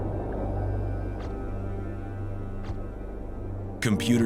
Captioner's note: camera flash zapping